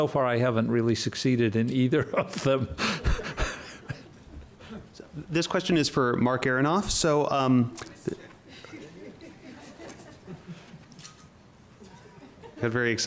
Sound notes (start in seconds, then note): 8.0 laughing